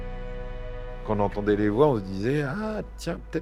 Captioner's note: in french